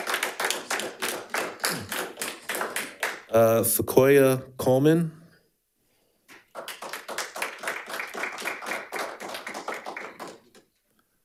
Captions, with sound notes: Sequoia Coleman. (audience applauding)